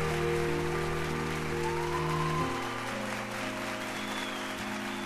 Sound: audience applauds and cheers

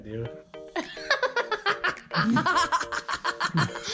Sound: laughter

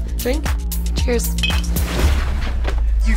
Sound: clink

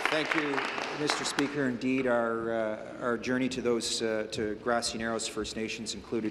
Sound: applause

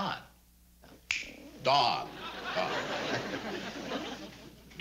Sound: chuckles

